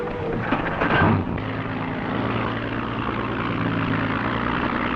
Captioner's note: engine rumbling